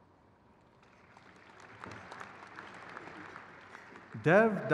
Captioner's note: crowd cheers